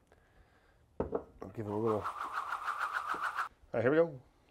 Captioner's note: air whirling